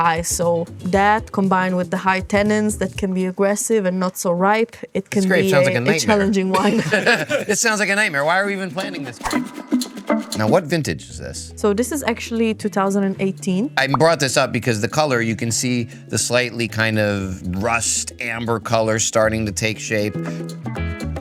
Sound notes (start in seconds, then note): 5.2 laughing; 10.0 upbeat music